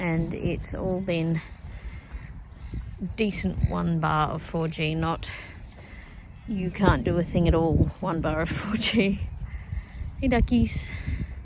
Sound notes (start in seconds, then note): 8.9 scoffs